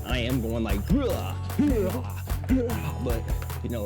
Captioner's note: goofy macho noises